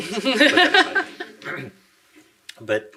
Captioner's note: laughing